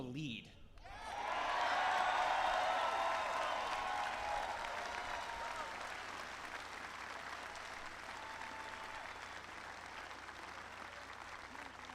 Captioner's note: applause